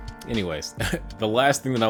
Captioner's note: giggles